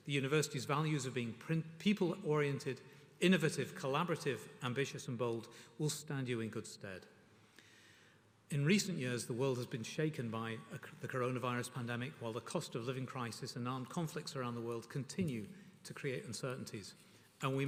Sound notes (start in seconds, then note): none